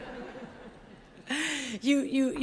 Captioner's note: audience laughs